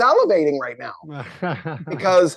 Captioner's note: chuckles